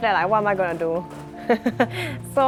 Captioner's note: laughs